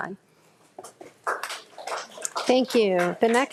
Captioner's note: audience applauds